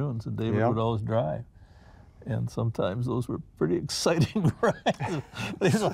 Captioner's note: laughs